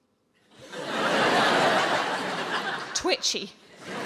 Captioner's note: audience laughs